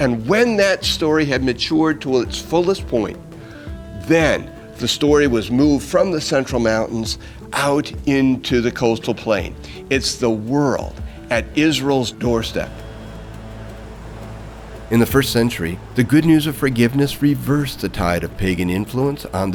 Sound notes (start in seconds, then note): 13.3 waves crashing